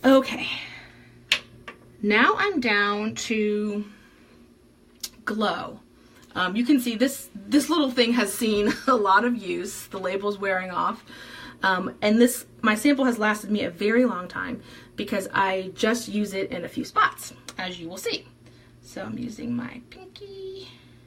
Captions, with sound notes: Okay. Now I'm down to Glow. You can see this little thing has seen (chuckles) a lot of use, the label's wearing off. And my sample has lasted me a very long time because I just use it in a few spots! As you will see. So I'm using my pinky.